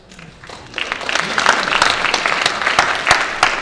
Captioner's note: audience Clapping